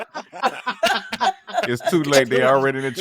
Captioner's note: laughing